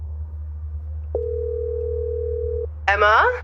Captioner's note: phone ringing